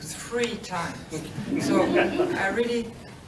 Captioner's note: laughter